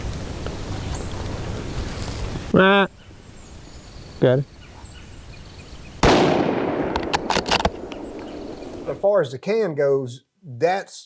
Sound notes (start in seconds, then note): 1.7 crow cawing; 6.0 gunshot